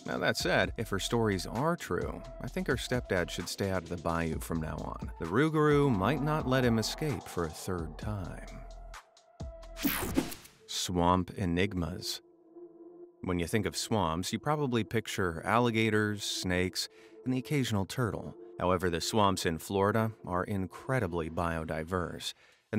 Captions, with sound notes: That being said, if her stories are true, I think her stepdad should stay out of the bayou from now on. The rougarou might not let him escape for a third time. (screen whooshing) Swamp enigmas. When you think of swamps, you probably picture alligators, snakes and the occasional turtle. However the swamps in Florida are incredibly biodiverse,